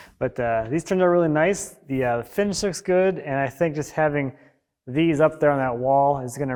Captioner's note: none